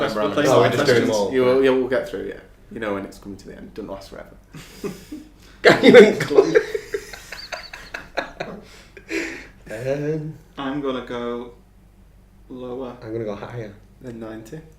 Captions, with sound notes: - We're not far off the end now. - Oh we're playing some more questions. - We'll get through, yeah. You'll know when it's come to the end. Don't last forever. (laughing) - Can you eat glue? (laughing) - I'm going to go lower. - I'm going to go higher than 90.